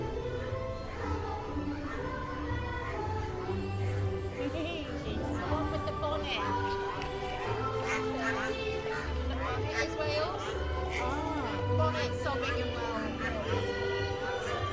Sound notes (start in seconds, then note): 4.4 laughs; 8.6 ducks quacking